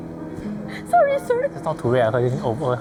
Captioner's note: laughing